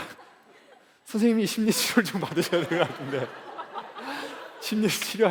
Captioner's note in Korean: 웃음